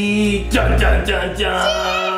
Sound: imitates triumphant music

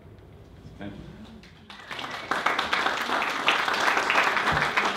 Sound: audience applauding

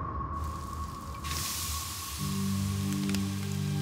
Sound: sizzling

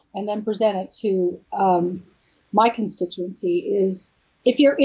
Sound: none

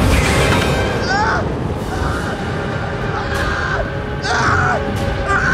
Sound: Tim shrieking desperately

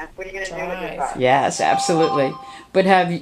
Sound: voiceover

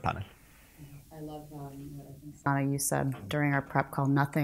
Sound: speaks very quietly

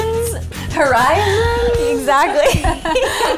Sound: laughs

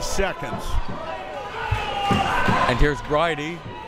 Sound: crowd members shouting

